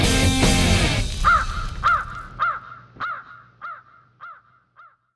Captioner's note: bird calling